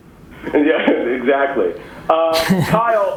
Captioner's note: laughs